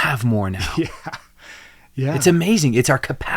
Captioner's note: chuckles